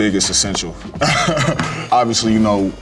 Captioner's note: chuckles